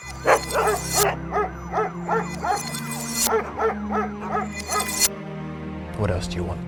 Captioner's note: images zapping; dogs barking